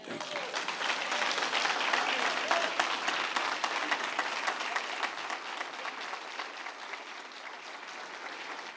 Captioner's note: applause